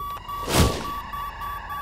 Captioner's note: Beeping